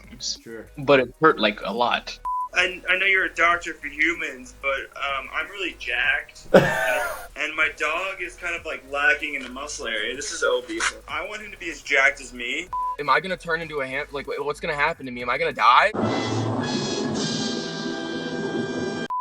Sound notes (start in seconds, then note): 6.4 laughing; 15.9 dramatic music